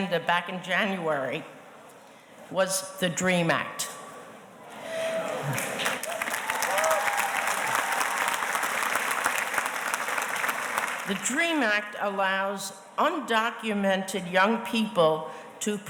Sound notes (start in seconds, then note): 5.0 audience applauding